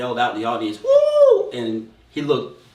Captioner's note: yells